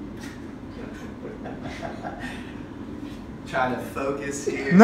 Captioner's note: laughing